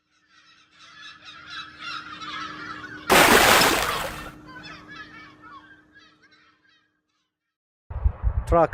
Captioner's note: gulls Calling; big Splash!